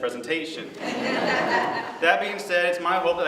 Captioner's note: laughter